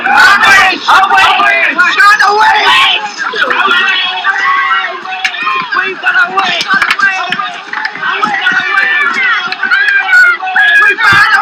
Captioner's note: crowd